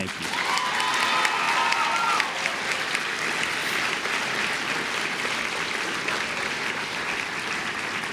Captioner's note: applause